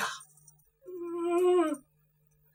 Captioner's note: whimpers